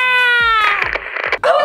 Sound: Static

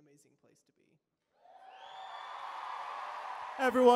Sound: cheering

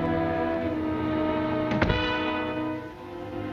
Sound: door closing

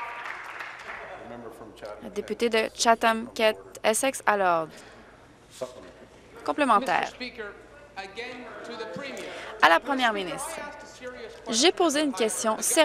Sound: applause

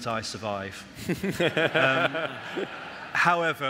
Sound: audience laugh

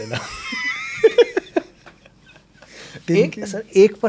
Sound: both laughing

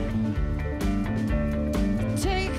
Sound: none

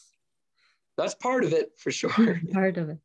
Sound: chuckles

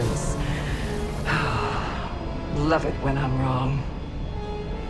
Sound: sighs

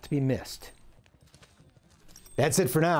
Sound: spurs rattling

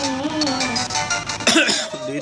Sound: coughs

